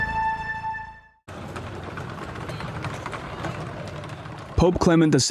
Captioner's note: helicopter whirring